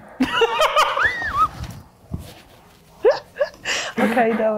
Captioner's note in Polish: śmiech; śmiech